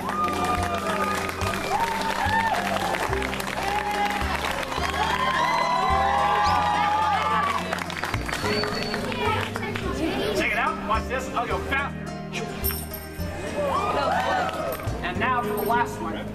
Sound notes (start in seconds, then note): 0.0 audience Applauds and Cheers; 4.4 applauding and Cheering Get Louder